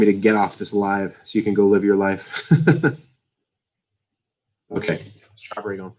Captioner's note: laughs